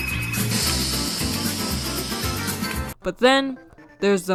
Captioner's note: audible sniffing